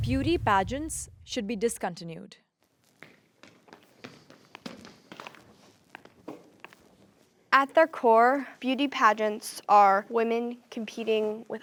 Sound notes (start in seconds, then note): 2.8 footsteps tapping